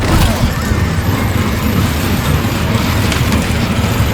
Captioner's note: chains rattle